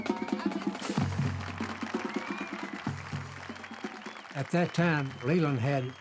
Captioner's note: marching band continues; crowd cheering and applauding